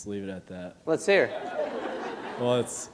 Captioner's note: laughter